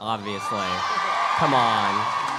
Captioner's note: audience cheering